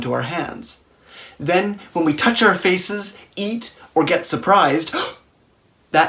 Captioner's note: gasp